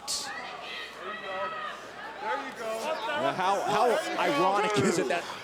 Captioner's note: crowd chatter